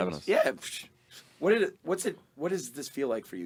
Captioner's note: scoffs